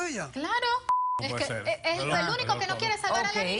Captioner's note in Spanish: Bip